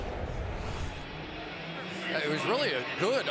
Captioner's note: swoosh